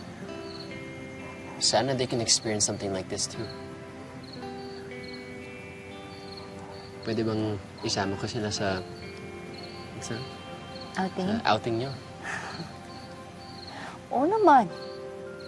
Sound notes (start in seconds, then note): 3.8 mellow music continues; 12.2 chuckles softly